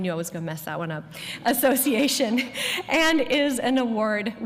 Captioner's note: laughter